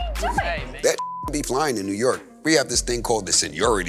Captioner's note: beep